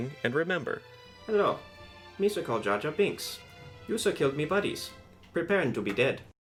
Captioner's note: none